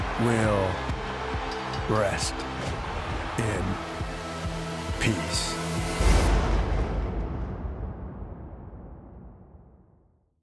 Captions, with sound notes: will rest in peace. (thunder clashes)